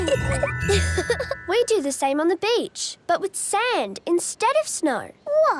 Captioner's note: laughing; giggling